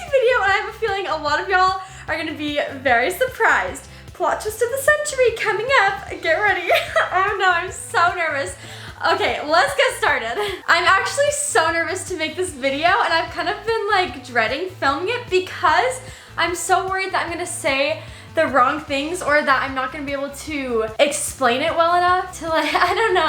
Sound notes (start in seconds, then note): 5.9 laughs